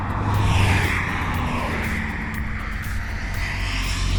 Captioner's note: traffic